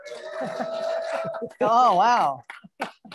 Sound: audience cheering

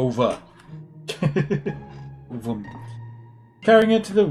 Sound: laughs

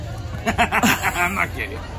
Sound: laughs

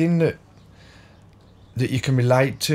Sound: silence

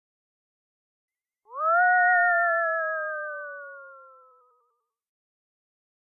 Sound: sound of cartoony ghost

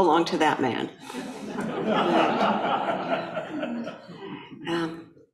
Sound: audience laughing

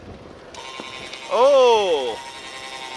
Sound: buzzing

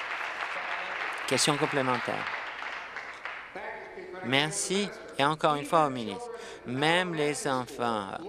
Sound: applause

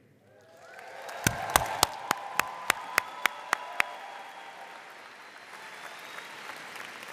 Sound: audience cheering and applauding

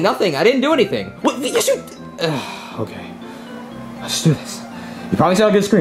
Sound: sighs

